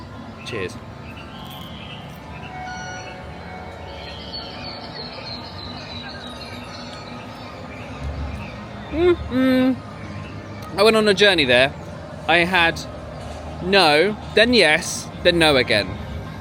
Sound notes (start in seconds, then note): 3.1 birds tweeting; 3.1 bright music